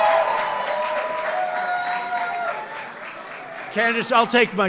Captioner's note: applause